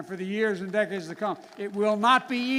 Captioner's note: applause